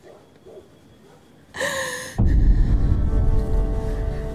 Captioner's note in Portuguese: respiração ofegante